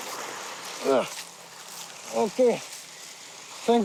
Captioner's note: man grunting